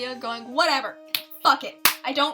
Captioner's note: clap